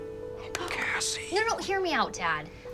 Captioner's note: hands clapping